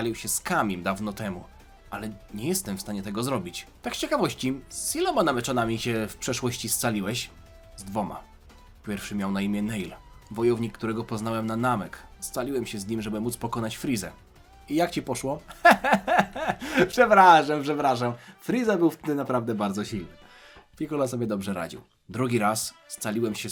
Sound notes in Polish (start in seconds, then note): 15.5 śmiech